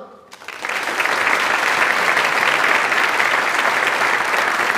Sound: audience applauds

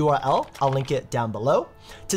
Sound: keyboard typing

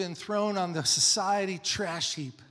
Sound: none

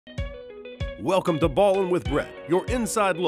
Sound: lively instrumental music; voiceover

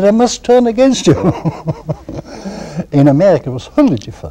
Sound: laughter

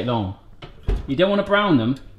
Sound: oven door thumping

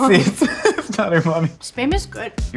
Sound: laughs

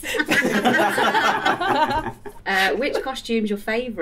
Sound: laughter

